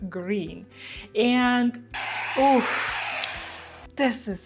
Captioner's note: machine whirring